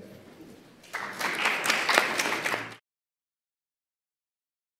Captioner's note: applause